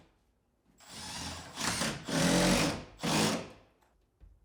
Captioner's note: drill whirring